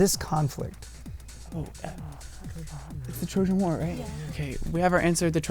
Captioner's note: wispering